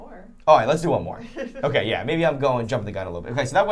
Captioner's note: laughing